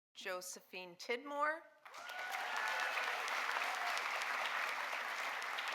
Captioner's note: audience applauding